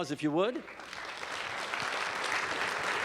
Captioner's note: applause